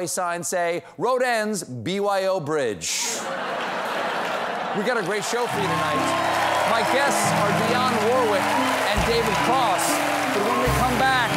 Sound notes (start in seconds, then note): 3.0 laughter; 3.5 applause